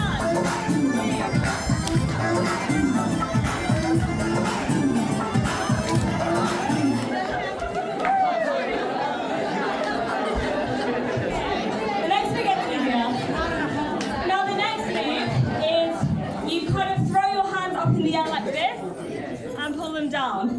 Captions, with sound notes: One, two, three. (upbeat music) (audience laughing) The next thing I get to do now, now the next thing is you kind of throw your hands up in the air like this and pull them down.